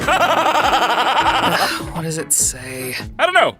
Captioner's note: laughs manically; sighs